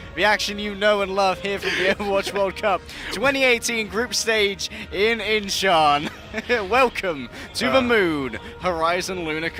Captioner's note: laughter